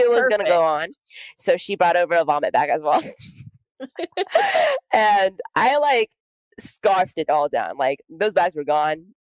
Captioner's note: laughs